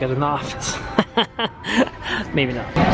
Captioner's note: laughing